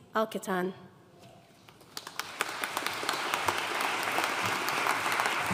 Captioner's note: audience applauding